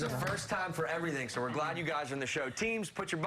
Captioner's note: applause